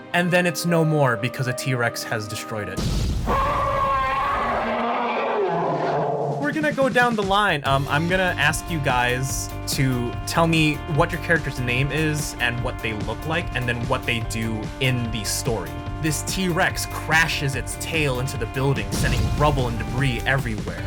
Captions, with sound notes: And then it's no more because a t-rex has destroyed it. *Explosion* *T-rex Noise* We're gonna go down the line. I'm gonna ask you guys to tell me what your character's name is, and what they look like, and then what they do in the story. This t-rex crashes its tail into the building, sending rubble and debris everywhere.